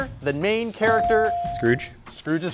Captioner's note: buzzer chimes